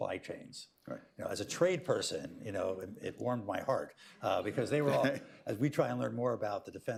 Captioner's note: laughter